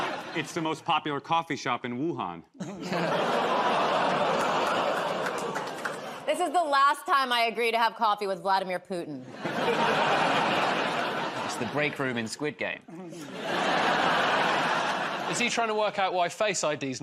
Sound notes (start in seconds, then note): 3.1 audience groans; 9.2 laughter